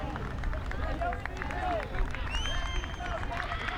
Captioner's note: crowd applauds